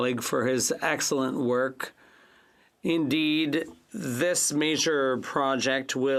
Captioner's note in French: voix de l'interprète